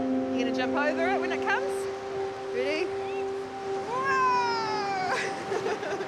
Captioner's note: chuckles